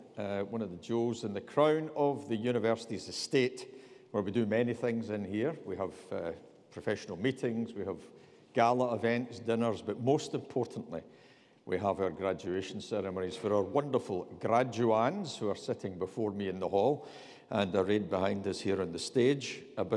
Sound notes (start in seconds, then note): none